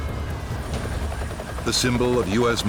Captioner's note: sirens wailing; helicopter whirring; voiceover